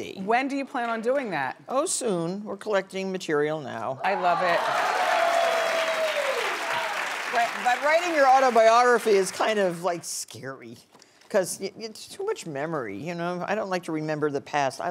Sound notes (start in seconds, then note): 4.0 audience cheering